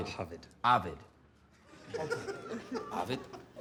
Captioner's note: laughter